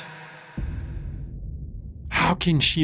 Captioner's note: cinematic hit